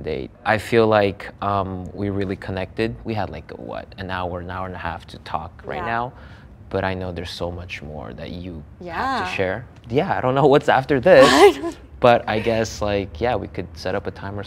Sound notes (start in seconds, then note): 11.2 laughs